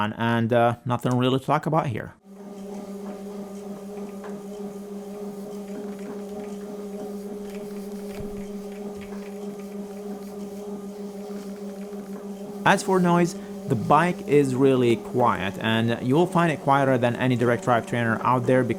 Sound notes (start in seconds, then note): 2.7 bike whirring